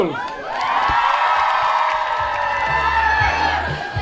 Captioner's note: crowd cheering